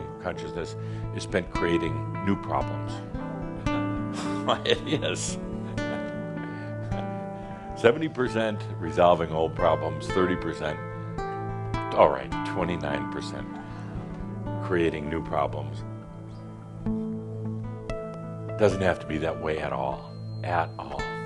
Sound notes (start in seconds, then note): 4.1 chuckling